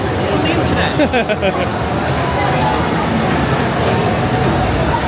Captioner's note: laughs